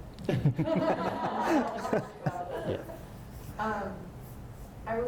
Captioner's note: audience laughs